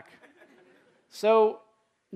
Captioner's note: laughter